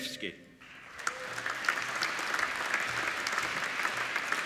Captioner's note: applauding